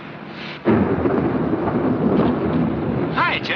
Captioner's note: thunderclap